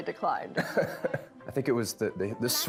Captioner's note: Nick laughs